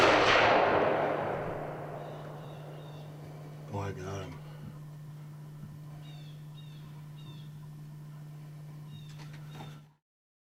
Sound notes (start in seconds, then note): 0.0 whispering; 0.0 gun firing; 5.8 birds squawking